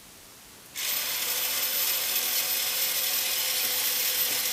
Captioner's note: motor whirring